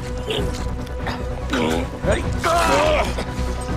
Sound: grunting

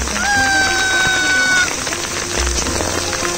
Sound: yells

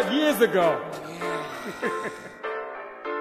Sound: laughter

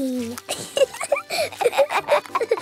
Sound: both laughing

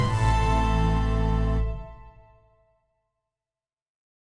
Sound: silence

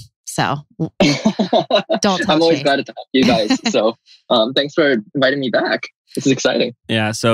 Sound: laughs

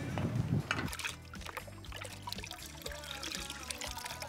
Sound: water moving

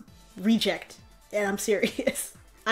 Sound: while laughing

